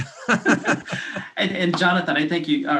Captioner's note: laughing